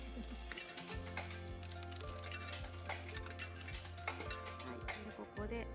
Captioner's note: laughs